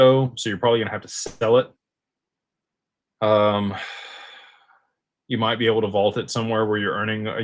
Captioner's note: sighs